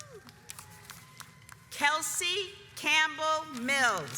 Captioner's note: audience applauds